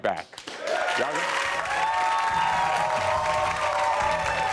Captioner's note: crowd cheering